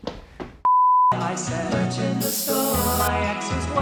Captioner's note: beep